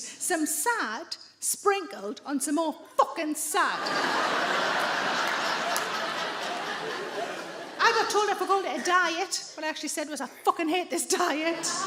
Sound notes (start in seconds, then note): 3.7 audience laughs